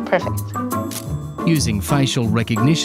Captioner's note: camera clicking